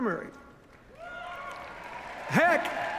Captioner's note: applause